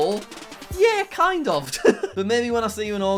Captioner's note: chuckles